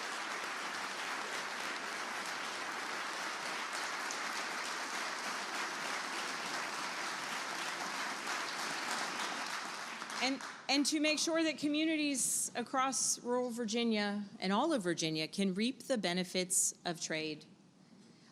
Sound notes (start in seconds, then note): 0.0 applause; 3.6 applause